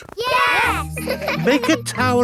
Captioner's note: laughing